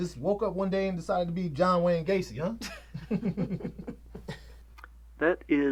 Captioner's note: chuckles